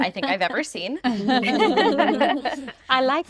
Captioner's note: group laughing